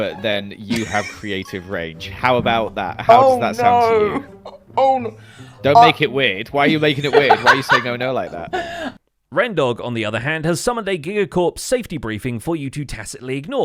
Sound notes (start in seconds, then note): 0.6 muffled laugh; 7.0 laughs